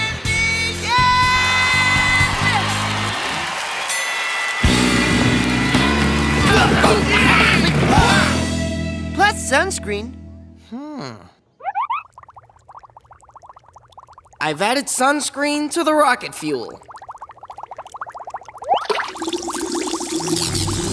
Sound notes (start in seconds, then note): 6.4 all grunting